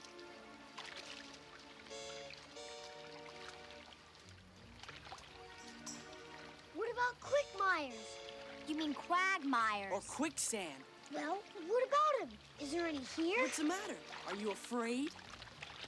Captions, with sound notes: (water splashing) (suspenseful music) What about quickmires? - You mean quagmires. - Or quicksand. - Well, what about 'em? Is there any here? - What's the matter, are you afraid?